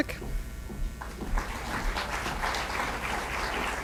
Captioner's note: applause